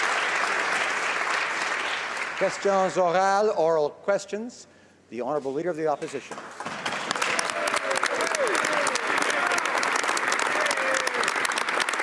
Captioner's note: some Applause